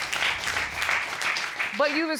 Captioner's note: scattered applause